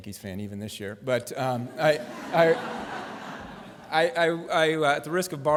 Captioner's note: laughter